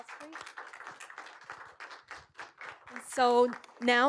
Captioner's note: applause